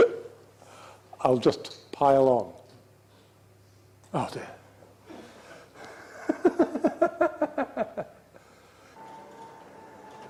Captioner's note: maniacal laugh; another maniacal laugh